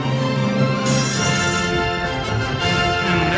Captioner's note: bell ringing